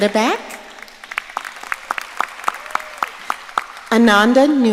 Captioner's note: audience applauding